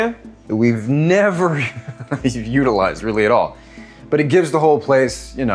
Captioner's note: laughs